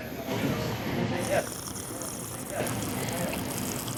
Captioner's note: long sipping